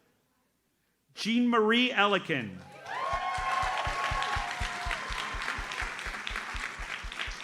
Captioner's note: audience cheers and applauds